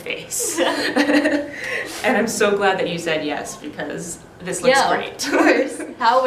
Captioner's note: both laugh